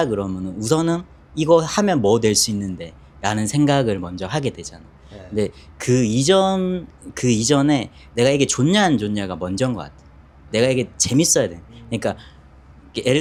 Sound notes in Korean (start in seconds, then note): 5.1 콧방귀